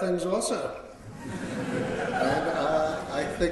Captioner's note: laughter